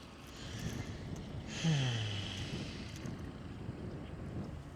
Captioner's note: sigh